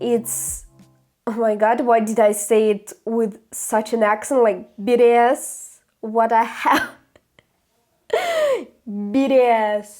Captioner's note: laughter